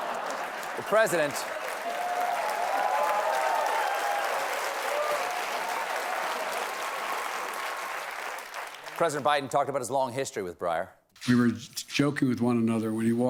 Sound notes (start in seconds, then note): 0.0 laughter; 0.0 applause